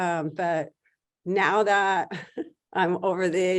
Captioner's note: chuckles